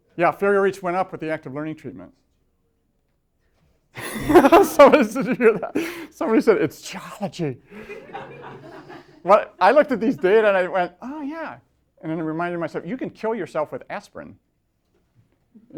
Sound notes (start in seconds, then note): 4.0 laughing; 7.7 laughter